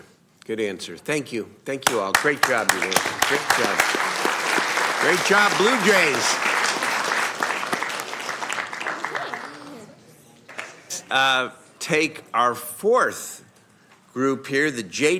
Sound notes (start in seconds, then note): 9.6 applause